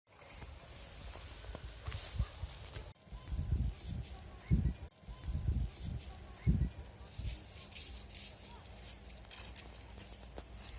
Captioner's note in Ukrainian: топає